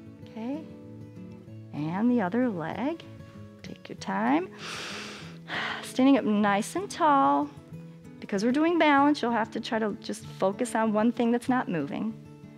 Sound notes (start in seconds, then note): 4.5 inhales and exhales